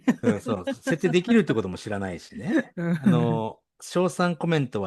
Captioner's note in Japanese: 笑い